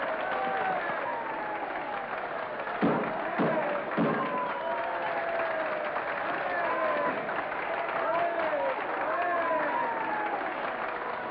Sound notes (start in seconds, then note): 2.7 audience cheers and applauds; 2.7 gavel thuds